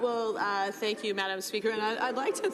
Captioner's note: laughter